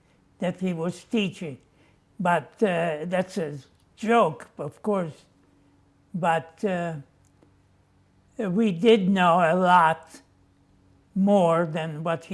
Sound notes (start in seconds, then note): none